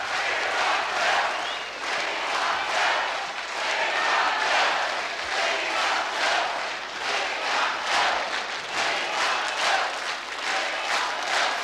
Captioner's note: Chanting "We want Bill!"